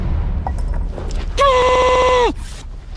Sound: glitched pain sounds

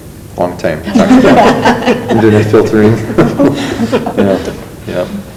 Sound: loud laughter

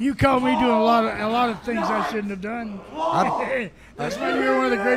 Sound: chuckles

